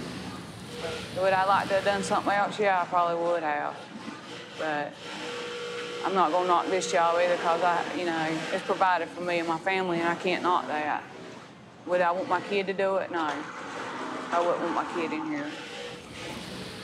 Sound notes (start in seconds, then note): none